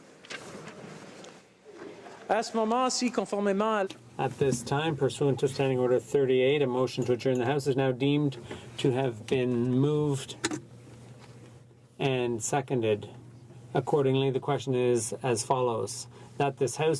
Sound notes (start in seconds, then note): 6.8 speaking French